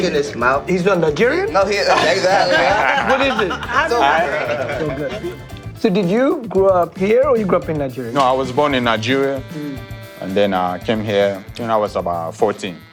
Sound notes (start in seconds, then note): 1.8 laughter